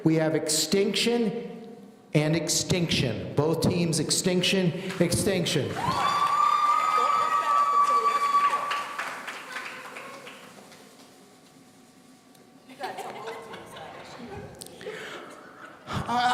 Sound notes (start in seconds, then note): 5.7 audience cheering; 12.7 laughing